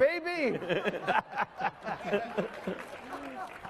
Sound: laughing; applause

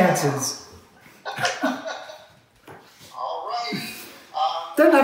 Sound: laughs

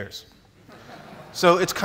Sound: laughs

